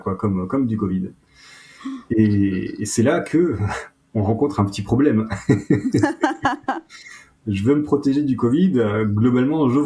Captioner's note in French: rires